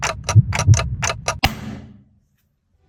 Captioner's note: the sound of forcefully beat the table